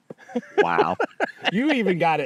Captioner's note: laughing